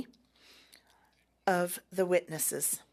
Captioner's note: speaking French